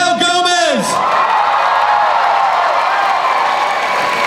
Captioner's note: cheering